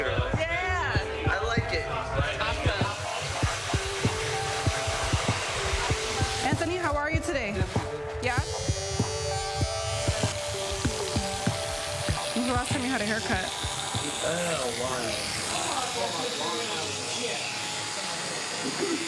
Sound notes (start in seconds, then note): 2.3 hairdryer whirring; 9.0 clippers buzzing